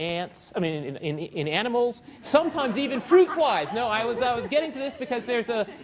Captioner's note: audience laughing